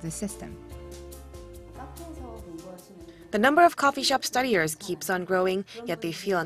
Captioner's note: Korean